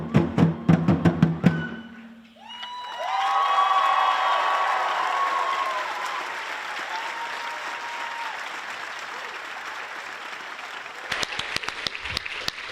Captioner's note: Aplausos; applause